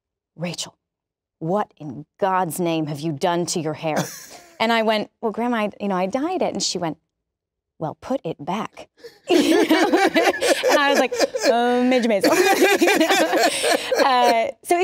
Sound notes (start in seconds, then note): 4.0 laughs; 9.2 both laugh